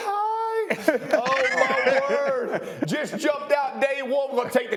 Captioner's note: laughter